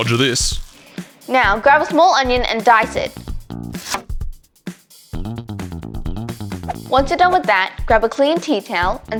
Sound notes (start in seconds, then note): 3.7 knife slicing; 6.2 upbeat techno music